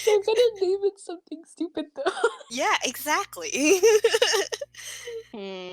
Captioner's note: laughs; laughs